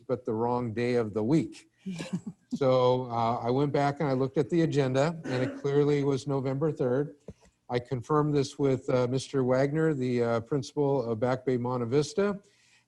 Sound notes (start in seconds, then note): 2.6 person laughs